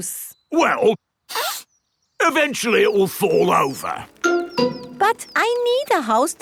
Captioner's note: sniffs